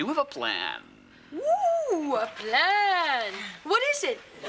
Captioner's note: exclaims